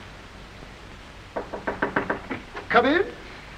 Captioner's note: knocks on door